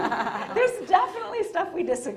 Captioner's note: both laughing